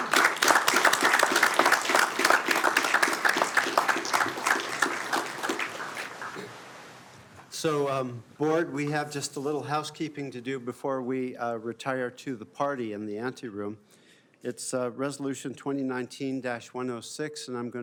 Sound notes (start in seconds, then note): 12.3 applause